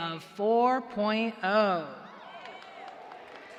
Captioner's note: cheers and applause